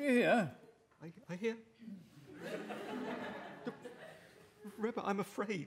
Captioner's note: timidly